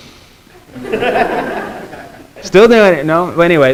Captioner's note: students laughing